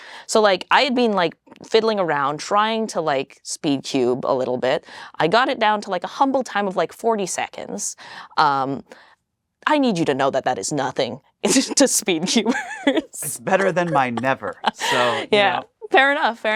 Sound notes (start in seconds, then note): 12.2 laughs